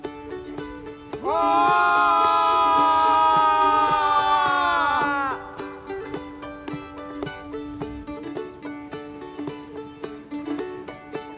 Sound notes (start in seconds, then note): 0.9 both shout together; 9.8 mandolin music resumes